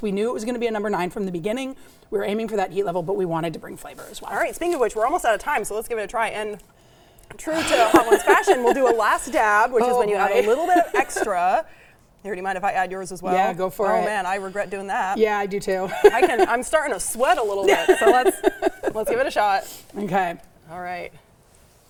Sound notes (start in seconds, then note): 7.5 laughs; 17.3 laughs